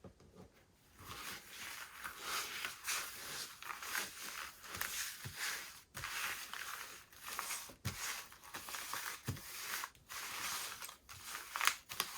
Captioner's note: shuffle